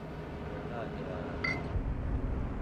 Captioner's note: bottle clanks